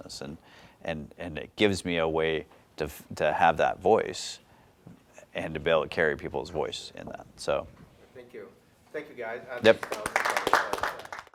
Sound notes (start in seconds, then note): 9.6 applause